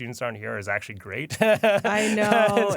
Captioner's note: laughs